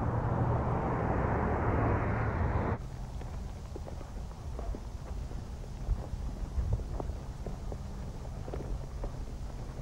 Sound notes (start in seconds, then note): 2.8 footsteps crunching